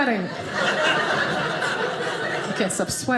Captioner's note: audience laughing